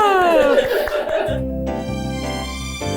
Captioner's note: chuckling; crew member applauding; crew member chuckling; upbeat music